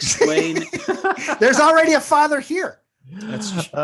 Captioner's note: all laugh